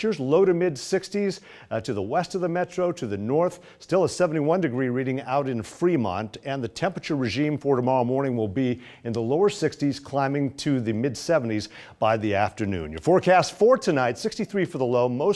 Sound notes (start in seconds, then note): none